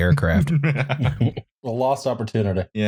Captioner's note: laughter